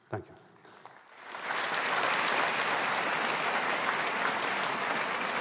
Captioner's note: audience applauding